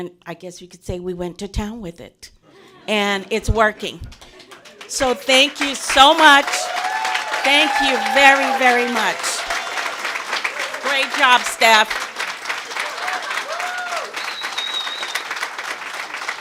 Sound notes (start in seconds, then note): 2.5 laughter; 6.5 applause; 10.2 applause; 13.1 applause and cheers